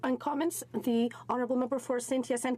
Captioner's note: speaking French